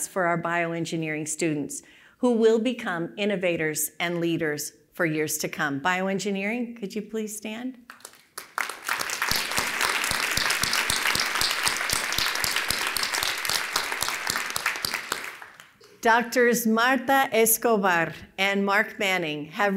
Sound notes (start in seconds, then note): 7.8 applause